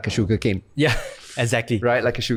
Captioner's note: chuckles